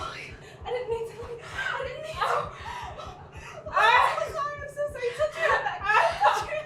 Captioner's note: Tish whimpers; sobs